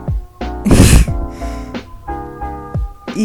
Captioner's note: weird laugh because Youtube came out